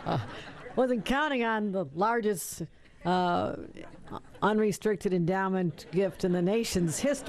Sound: laughter

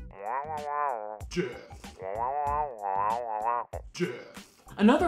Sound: nasally humming

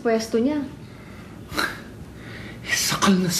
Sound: exhales

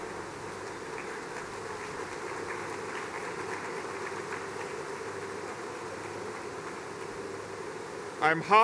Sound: applause

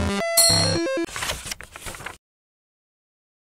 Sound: beep; sound of page turning

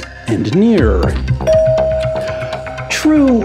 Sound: bell dings

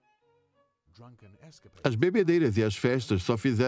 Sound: voiceover

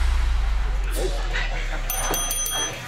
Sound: dinging

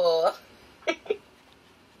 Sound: giggles

